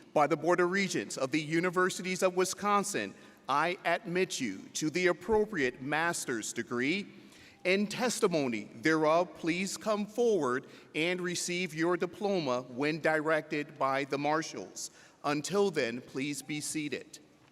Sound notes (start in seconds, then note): none